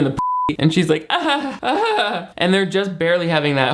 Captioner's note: beep; laughs